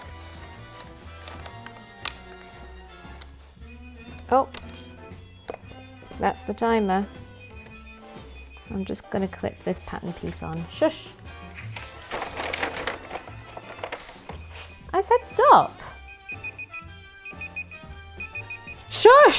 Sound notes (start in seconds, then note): 3.6 beeping